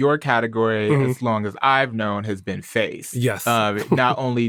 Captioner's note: chuckles